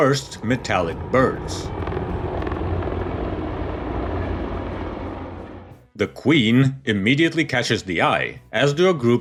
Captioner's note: opening aircraft flyovers